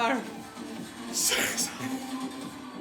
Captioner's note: laughing